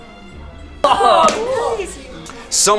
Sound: cheer

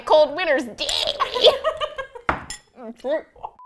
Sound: gags; laughs

